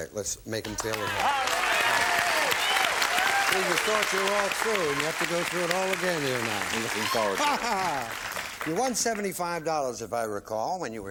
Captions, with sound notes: so we brought them back. Let's make them feel at home. (applause) You thought you were all through, and you have to go through it all again, you and I. -Looking forward to it. -Ha ha! You won $75,